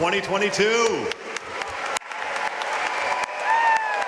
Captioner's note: audience applauding